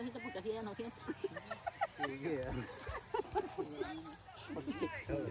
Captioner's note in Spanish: risas